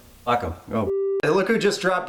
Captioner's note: beep